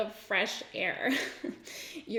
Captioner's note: giggles